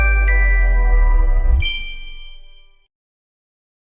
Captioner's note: chime